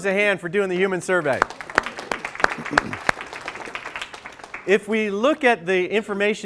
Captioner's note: applause